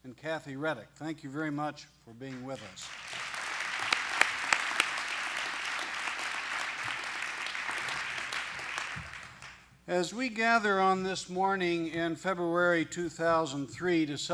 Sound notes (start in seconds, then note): 2.3 applause